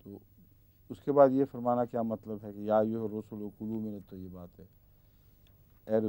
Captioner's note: Arabic